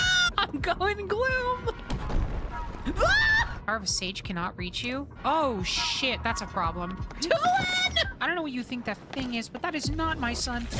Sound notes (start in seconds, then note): 0.2 laughing; 2.9 screaming